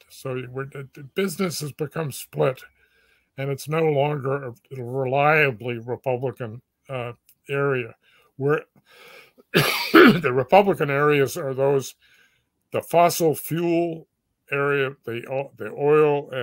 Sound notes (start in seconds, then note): 9.5 cough